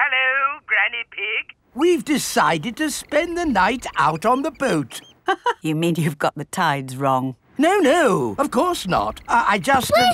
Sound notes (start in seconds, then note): 5.1 laughs